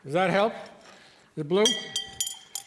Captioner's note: stir stick clinking